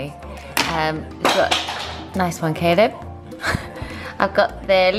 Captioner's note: laughs